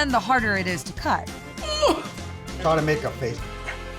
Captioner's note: grunting